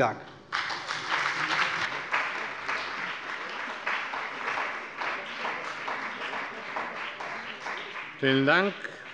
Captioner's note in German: Beifall bei der CDU und dem BÜNDNIS 90/DIE GRÜNEN